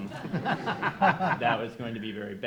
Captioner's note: crowd laughing